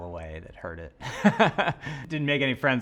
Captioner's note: laughing